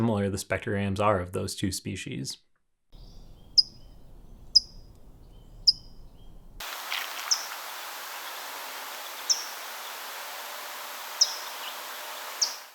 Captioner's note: bird chip notes